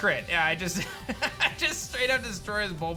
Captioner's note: laughs